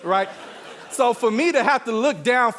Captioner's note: audience laughing